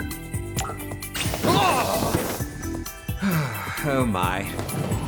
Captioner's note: whistling